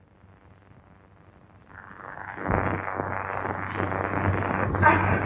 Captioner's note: thunder